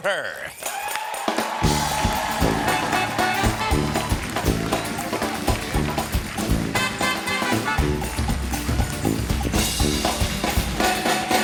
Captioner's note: applause